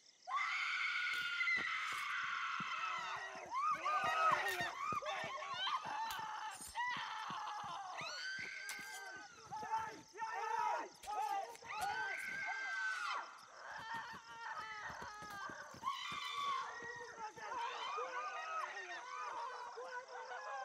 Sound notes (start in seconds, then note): 0.3 counselors screaming; 0.3 weapons whacking; 8.8 counselors screaming; 8.8 counselors shouting